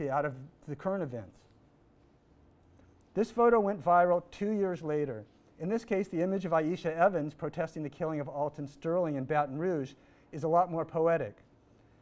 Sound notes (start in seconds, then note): none